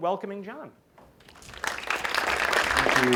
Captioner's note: applause